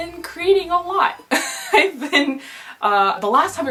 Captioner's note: nervous laughter